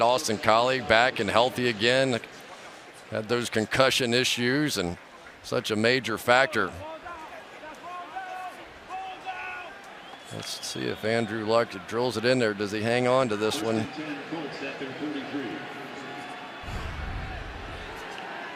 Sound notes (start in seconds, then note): 7.3 onfield chatter; 14.7 pa announcement